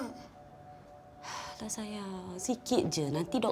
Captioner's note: in Bahasa Melayu